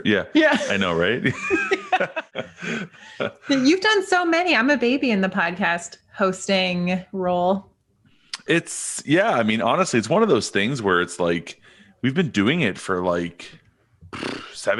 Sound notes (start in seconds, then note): 0.4 both laughing; 14.1 blowing raspberries